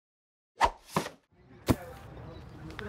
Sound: board thwacks

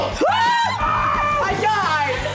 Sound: screaming

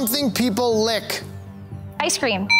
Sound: bell ringing

